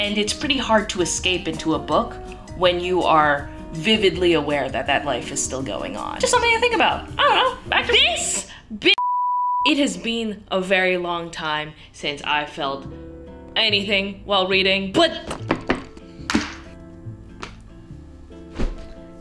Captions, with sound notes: And it's pretty hard to escape into a book when you are vividly aware that that life is still going on. It's something to think about, I don't know, back to - This (beep). It has been a very long time since I felt anything while reading, but (smack)